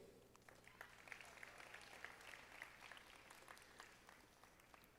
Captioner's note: audience applauding